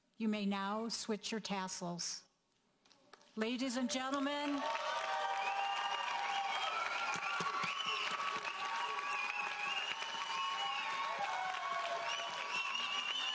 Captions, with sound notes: You may now switch your tassels. Ladies and gentlemen-- (audience cheering)